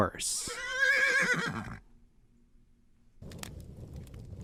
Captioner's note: horse neighing